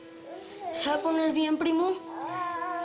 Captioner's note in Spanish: Balbuceo de un bebé; Balbuceos del bebé